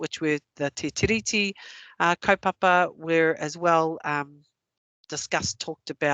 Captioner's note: non-english